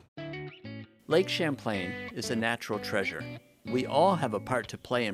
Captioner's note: male Voice